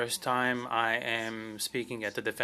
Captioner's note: speaking French